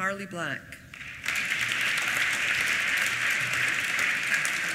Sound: applause

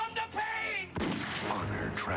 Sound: gunshot

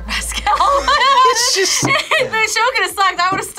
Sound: laughs

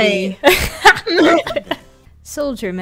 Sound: both laugh

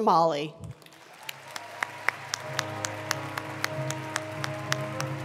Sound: attendees applauding

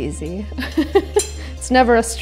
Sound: laughs

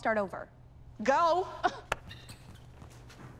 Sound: scoffs

